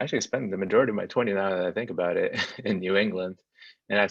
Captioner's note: laughs